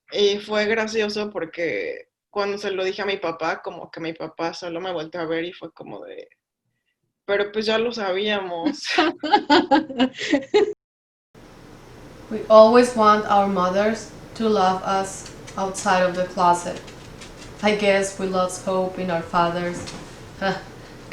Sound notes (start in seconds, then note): 8.7 laughs